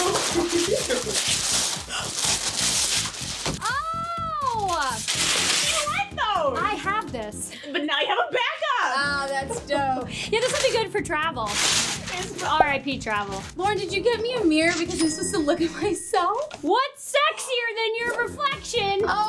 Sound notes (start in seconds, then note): 0.0 rustling continues; 0.2 laughs; 2.1 rustling continues